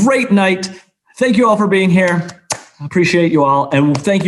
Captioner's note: applauds